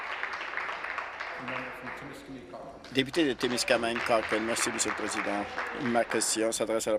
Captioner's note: applause